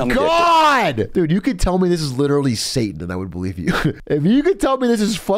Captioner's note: laughs